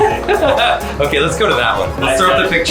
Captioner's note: laughing